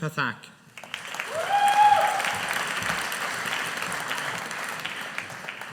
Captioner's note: audience applauding